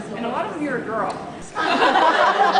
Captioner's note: laughs